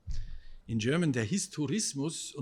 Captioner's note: speaking German